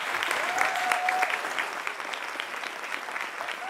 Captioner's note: applause